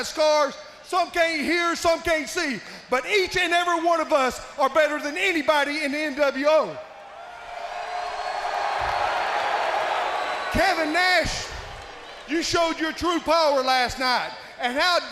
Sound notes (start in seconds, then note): 6.8 crowd cheering